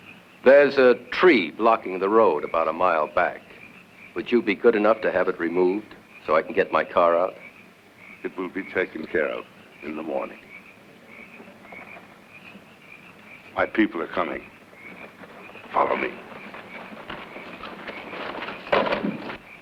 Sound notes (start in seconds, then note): 11.5 footsteps shuffling